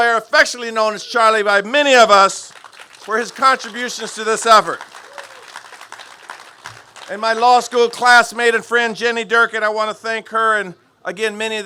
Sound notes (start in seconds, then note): 4.9 applause